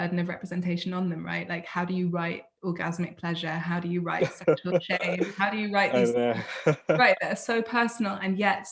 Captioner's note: laughs